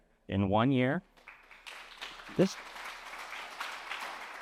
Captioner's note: applause